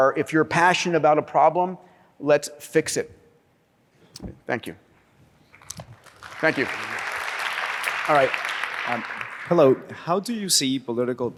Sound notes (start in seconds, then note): 5.6 applause